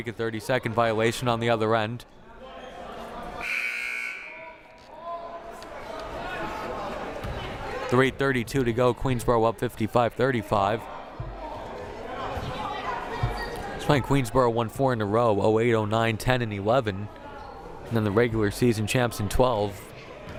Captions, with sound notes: a 30 second violation on the other end. (buzzer blaring) 3:32 to go, Queensborough up 55-35. It's funny, Queensborough won four in a row, '08, '09, '10, and '11, and the regular season champs in '12.